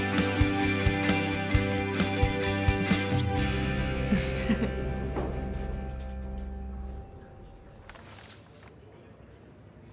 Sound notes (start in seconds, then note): 3.4 elevator dings; 4.0 June laughs